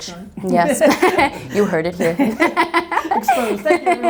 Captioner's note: group laughter